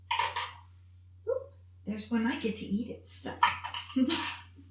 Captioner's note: giggles